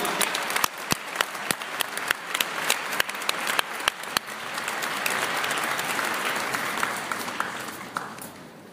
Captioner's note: applause